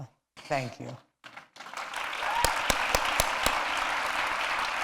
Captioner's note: applause